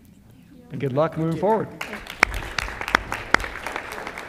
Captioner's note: applause